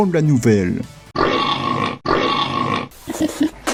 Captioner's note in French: meme cochon qui renifle